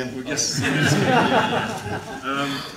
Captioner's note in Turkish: kahkahalar